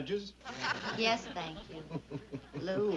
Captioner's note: Lew laughs